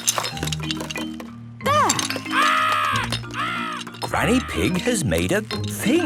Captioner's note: seagulls cries